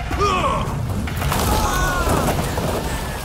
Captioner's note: they yell